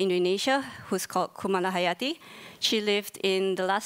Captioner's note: speaking in foreign language